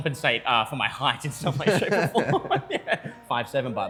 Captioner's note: laughter